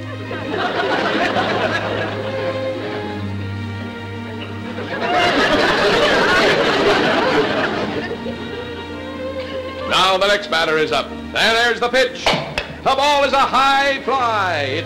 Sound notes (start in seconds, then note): 0.0 audience chuckling; 3.7 audience laughter; 12.2 crack